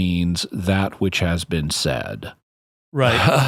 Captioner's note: laughter